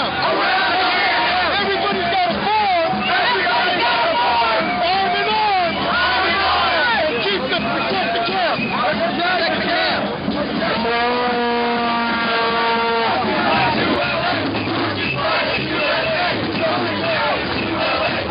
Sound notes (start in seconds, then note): 9.3 horn blowing